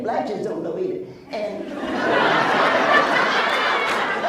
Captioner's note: laughs